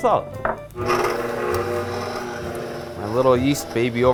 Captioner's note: mixer running